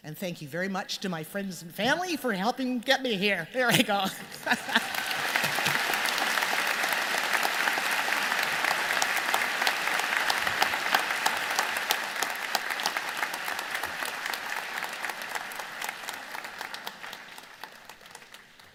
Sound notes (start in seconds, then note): 5.5 applause